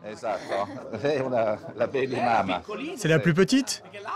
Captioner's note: speaks Italian